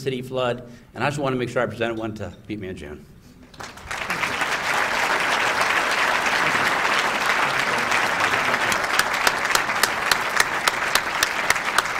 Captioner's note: applause